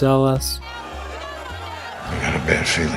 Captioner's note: booing